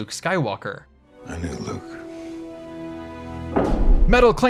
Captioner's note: metal clanging noise